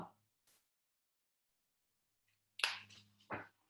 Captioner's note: silence